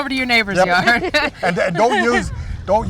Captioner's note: laughs